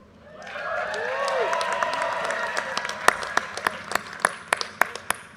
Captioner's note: audience cheers and applause